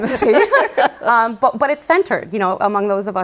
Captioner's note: laughter